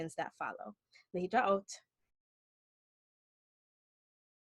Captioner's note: speaking Hebrew